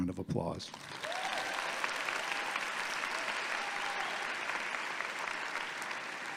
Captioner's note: audience clapping and cheering